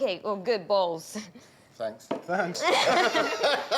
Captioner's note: chuckles